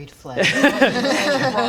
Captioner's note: laughs